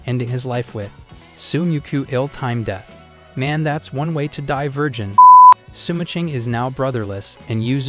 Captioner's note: beep